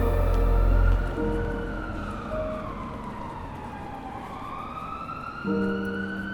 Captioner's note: soft orchestral music; sirens blaring